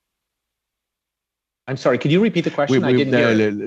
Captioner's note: speaking French